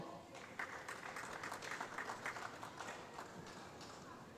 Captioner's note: applause